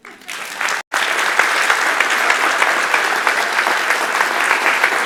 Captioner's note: audience applauding